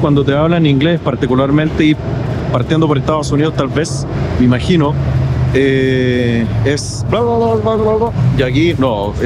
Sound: fast language

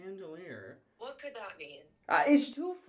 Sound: on phone

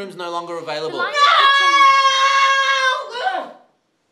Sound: scream

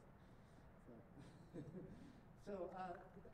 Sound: laughter

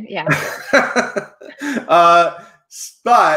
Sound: laughing

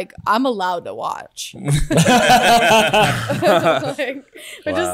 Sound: laughs

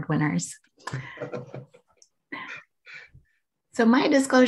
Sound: laughing

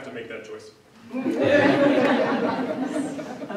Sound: laughing

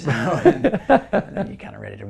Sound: laugh

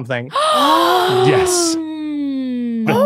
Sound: gasp

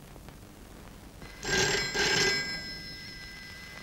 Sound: phone Ringing

